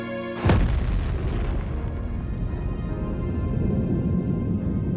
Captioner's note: explosion booms